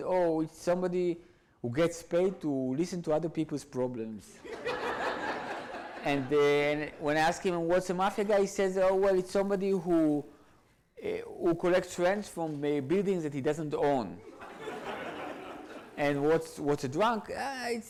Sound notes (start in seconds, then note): 4.4 audience laughs; 14.3 audience laughs